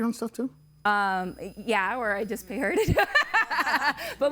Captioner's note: laughing